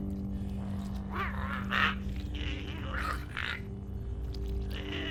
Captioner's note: Giree grumbles